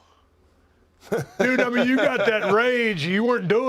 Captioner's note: laugh